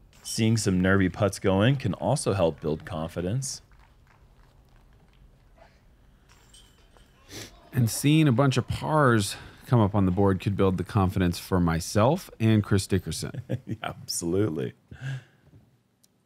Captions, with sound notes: Seeing some nervy putts going can also help build confidence. Seeing a bunch of pars come up on the board can build the confidence for myself and Chris Dickerson. - [chuckles] Absolutely.